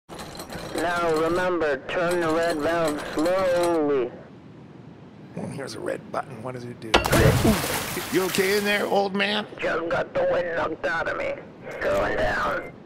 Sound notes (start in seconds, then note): 7.0 splash and loud gasp